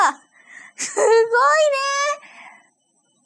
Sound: laughs

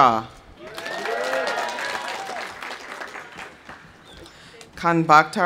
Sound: audience cheering; audience applauding

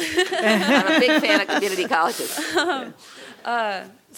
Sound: laugh

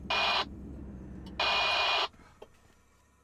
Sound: engine switches off

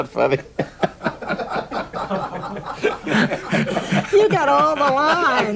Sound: audience laughing

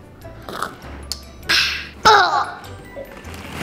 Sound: slurps

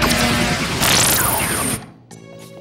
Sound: laser shooting

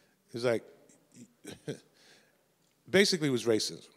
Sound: chuckles

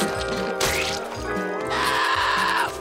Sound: screeching

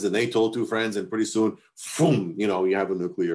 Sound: imitates explosions

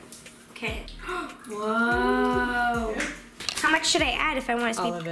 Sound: gasping

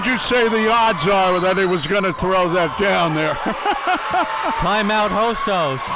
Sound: laughing

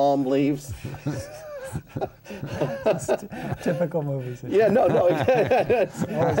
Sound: laughter

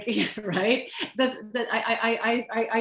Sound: chuckle

